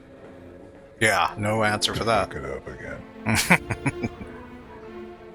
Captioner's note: laughing